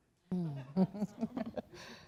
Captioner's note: chuckling